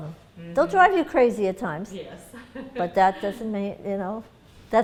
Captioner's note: laughter